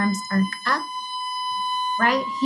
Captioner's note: high-pitched whistling persists